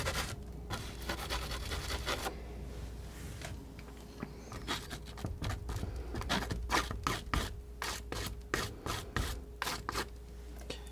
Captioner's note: scratching